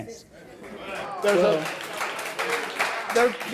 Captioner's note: audience applause